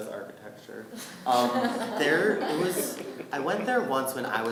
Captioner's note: laughing